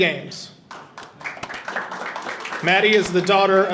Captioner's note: audience applauding